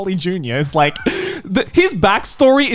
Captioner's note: chuckles